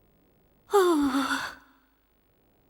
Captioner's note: moans